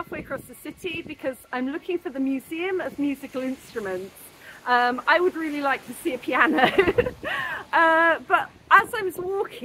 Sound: laughing

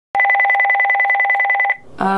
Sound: phone rings

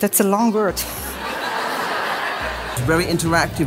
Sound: audience laughs

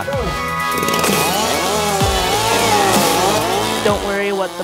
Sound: chainsaw roaring

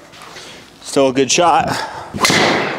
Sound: exhales; ball thuds

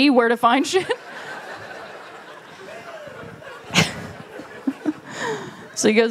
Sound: laughter

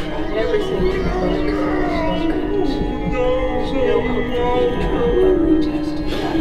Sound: man sobbing; voice eerily distorting

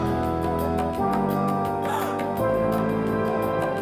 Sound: upbeat music plays; gasping sound

